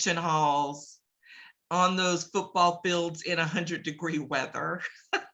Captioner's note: laughs